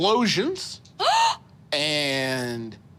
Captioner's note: gasping